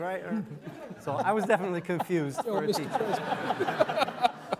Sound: all laughing

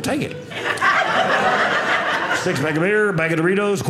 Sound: audience laughing

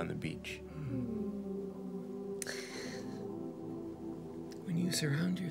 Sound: X and Annabelle sigh

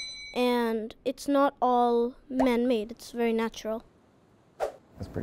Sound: ding; whoosh

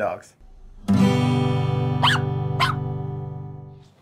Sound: dog barking

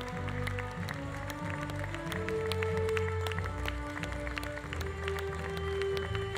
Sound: audience applause continues; audience cheering continues

